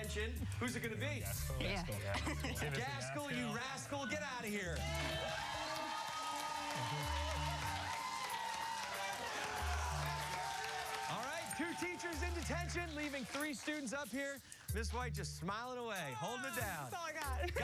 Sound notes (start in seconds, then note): 6.1 cheers and applause